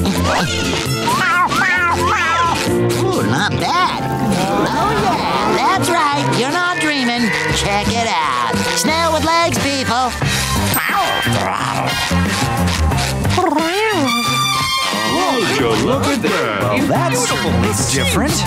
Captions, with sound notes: Meow, meow, meow. Ooh, not bad. Oh, yeah, that's right. You're not dreaming. Check it out. Snail with legs, people. [meowing] [meowing] Would you look at that. Well, that's certainly different.